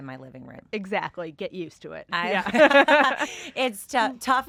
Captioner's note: both laugh